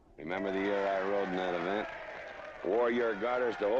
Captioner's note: crowd cheering